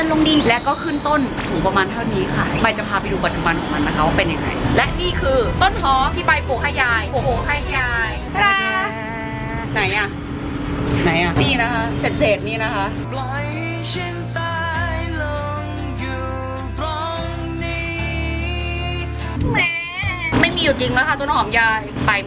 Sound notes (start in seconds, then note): 19.5 baby crying